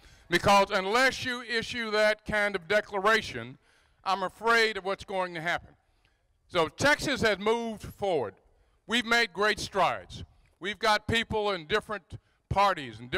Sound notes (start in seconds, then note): none